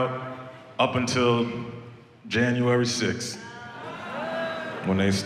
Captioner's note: audience boos